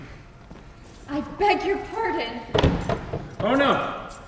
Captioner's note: door shuts